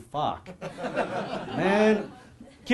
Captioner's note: audience laughing